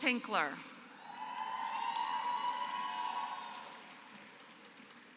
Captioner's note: applause